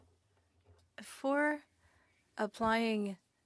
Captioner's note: speaking French